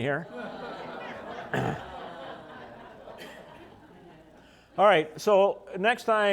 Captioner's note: laughter